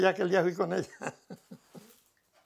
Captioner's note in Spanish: ríe